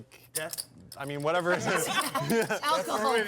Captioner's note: laughs